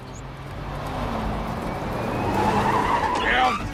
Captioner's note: tires squealing